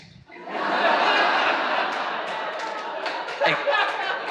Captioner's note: audience laughs